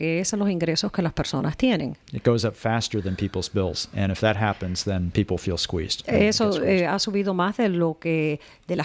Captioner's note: Hablando ingl\s